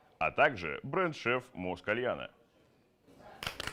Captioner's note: applause